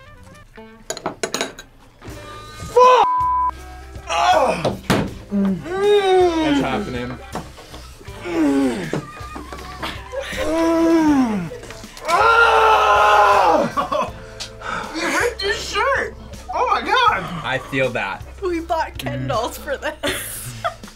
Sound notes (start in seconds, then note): 0.3 sultry music; 3.0 beep; 5.3 moans; 12.0 screams